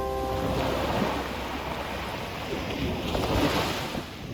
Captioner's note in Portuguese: Ondas do mar